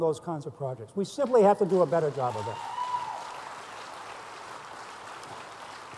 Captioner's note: applause